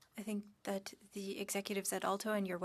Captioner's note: speaking French